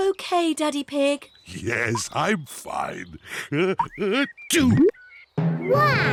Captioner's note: sneezes